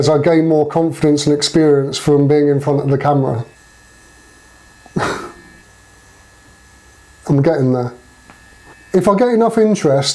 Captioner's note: hah